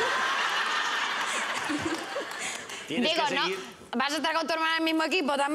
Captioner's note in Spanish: risas